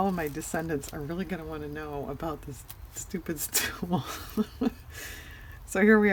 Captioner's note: laughs